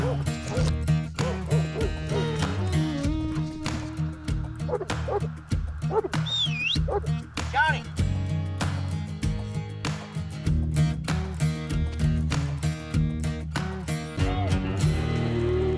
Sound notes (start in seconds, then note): 0.0 dog barking; 6.2 whistle